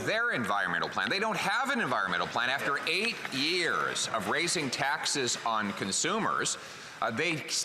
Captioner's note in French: voix de l'interprète